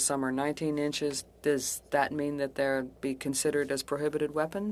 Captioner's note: speaking French